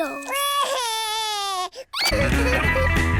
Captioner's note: cries